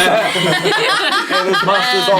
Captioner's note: all laughing